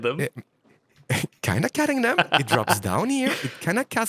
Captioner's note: laughs